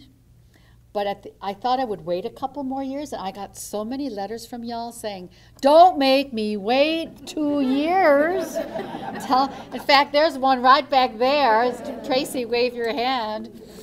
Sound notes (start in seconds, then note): 7.5 laughter